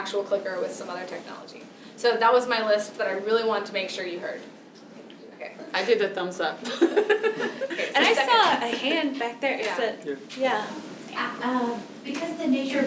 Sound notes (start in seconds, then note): 7.4 group chatter